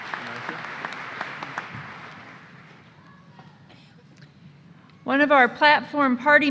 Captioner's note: applause